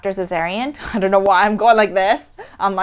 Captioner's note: laughs